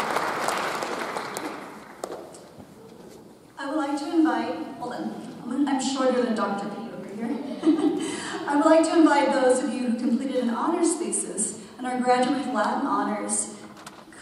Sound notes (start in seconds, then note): 7.3 chuckles